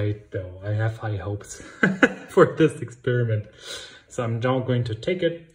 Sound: laughs

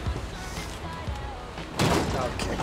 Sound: thud

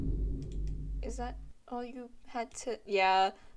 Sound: boom; gavel

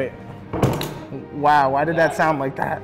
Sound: wood thumping

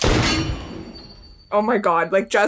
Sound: gunshot; bullet hitting coin

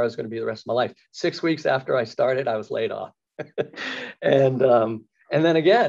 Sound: laughs

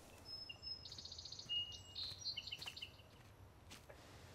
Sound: birds chirping

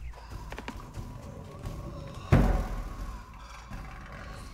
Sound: footsteps/breathing

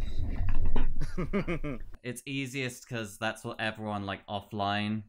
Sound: laughs in transgender

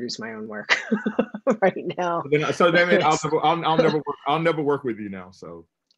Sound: chuckles

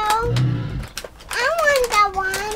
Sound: growling

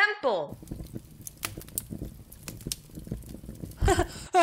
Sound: flames crackle and die; laughs nervously

